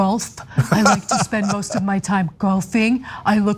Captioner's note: laugh